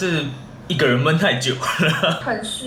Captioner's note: laughs